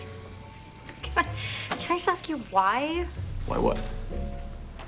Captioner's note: laughs